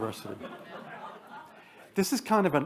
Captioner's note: attendees laugh